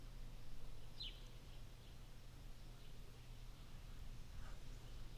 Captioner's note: bird chirping